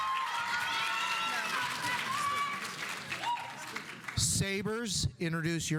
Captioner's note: audience cheering; audience applauding